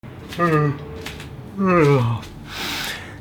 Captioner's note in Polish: odgłosy ziewania